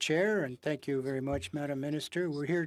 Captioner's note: speaking French